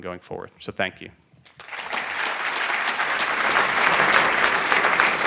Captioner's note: applause